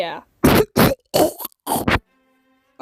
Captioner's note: coughing in the background